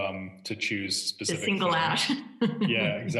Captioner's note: chuckles